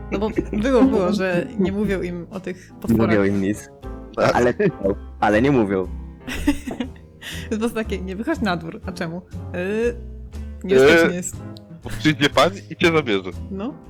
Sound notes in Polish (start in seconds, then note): 0.2 śmiech; 6.2 śmiech